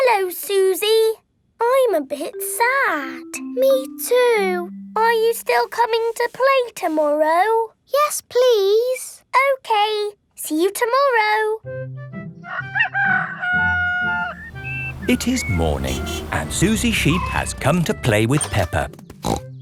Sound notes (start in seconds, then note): 12.4 rooster crowing